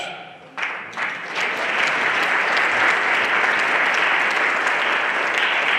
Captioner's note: everyone applauding